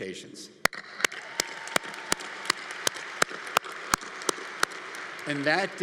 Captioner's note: clapping; audience applauding